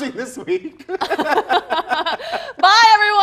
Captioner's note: both laughing